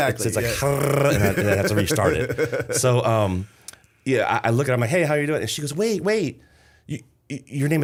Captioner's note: laughter